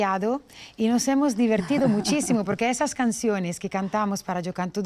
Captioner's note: laughs